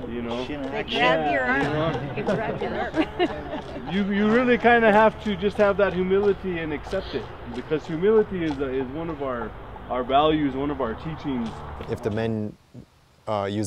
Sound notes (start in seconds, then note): 0.9 more laughing; 1.5 background voice laughing